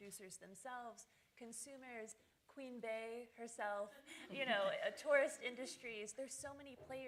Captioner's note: laughter